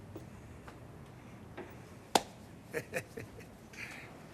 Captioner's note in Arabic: ضحكة مكتومة فيتز